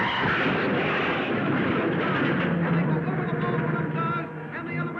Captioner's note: cars crashing; tires squealing